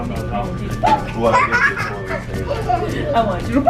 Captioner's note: giggles